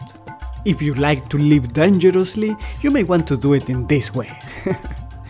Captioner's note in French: rires